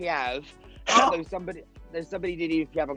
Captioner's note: laughing